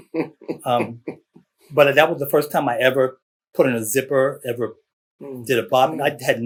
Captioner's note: laughter